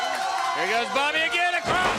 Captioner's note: crowd cheering